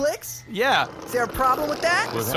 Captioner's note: Flix’s chair continues to roll across the floor